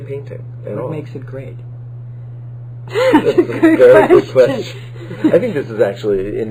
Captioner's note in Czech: smích